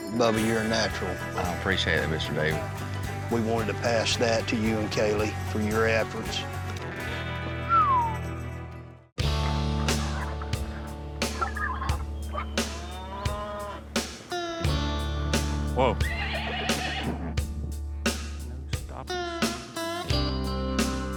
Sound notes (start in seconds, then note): 5.0 whistles; 15.8 horse neighs; 18.0 mutters